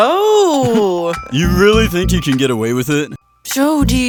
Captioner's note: giggle